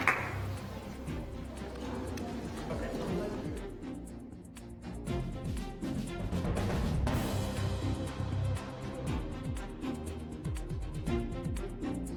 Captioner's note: applause